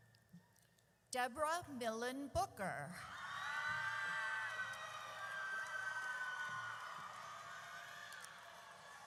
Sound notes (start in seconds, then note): 3.0 audience cheers